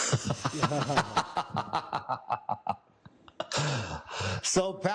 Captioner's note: laughter